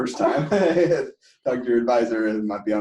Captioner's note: laughter